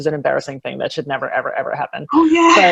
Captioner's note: laughs